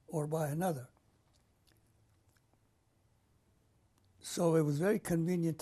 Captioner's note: pauses for 3 seconds